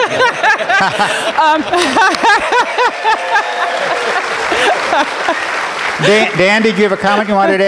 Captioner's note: laughter